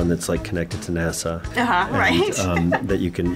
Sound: laughs

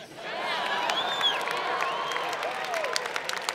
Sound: laughter; applause

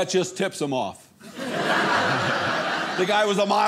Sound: audience laughing

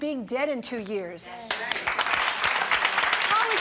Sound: applause

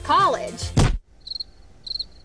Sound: slime dropping; birds tweeting

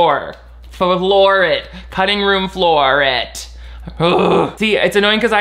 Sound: groans

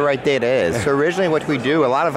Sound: chuckles

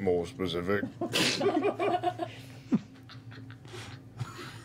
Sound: laughter

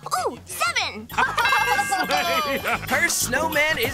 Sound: laughing

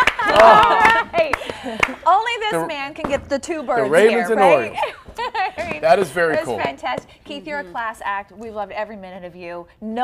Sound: applause

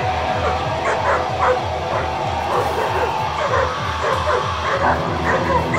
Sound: distortion guitar rock music; dog barking

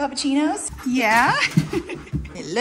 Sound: laughs

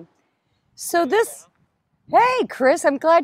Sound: mumbles

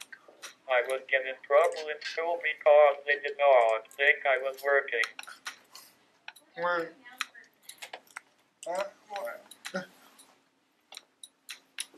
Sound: clicking

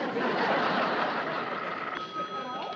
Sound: line rings

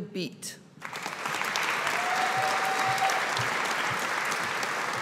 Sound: audience applauding

